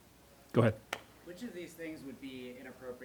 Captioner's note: voiceover